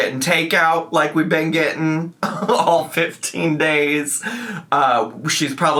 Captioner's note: laughs